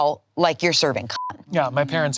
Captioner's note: beep